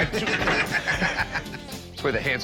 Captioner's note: laughter